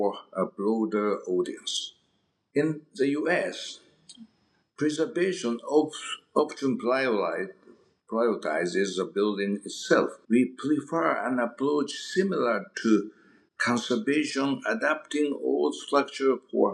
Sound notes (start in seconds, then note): 6.6 mouth smack